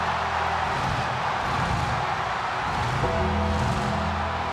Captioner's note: audience continues cheering; pyro bangs